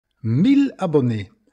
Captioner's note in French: Voix d’un homme